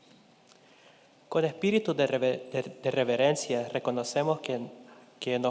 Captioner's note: speaking in Spanish